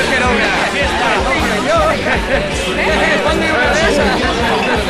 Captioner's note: cheering, and yelling